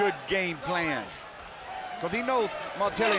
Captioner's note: fans cheering